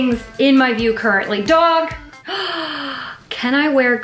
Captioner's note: gasps